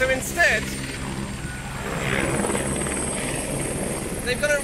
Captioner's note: loud helicoptery noises